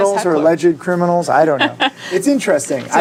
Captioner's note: laughs